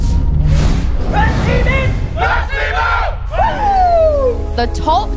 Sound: team cheering

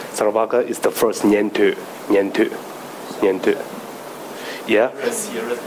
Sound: speaking in foreign language

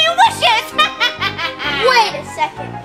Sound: laughs

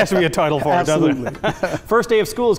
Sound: laughs

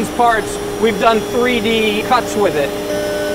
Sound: machine buzzing

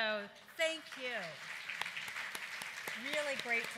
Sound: applause

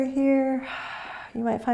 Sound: exhaling

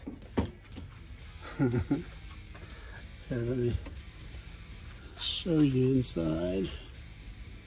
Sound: chuckling

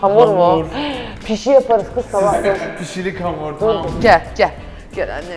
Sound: gasps

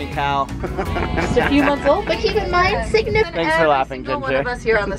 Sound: laughs

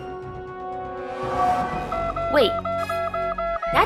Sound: alert siren

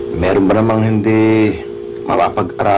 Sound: none

